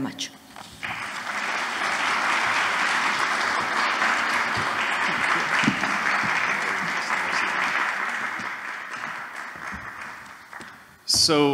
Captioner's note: applause